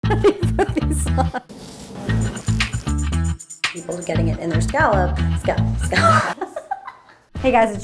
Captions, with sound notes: How do you put these on? People are getting it in their scallop-- Scallop. Scallop? [LAUGHS] Hey, guys.